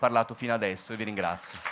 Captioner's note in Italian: Applausi